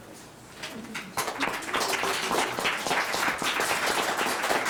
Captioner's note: audience clapping